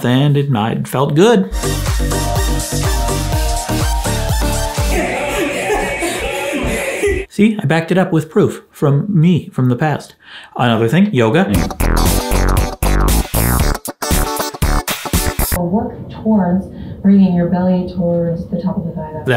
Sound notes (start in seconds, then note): 1.5 upbeat music; 4.8 laughs; 11.5 upbeat music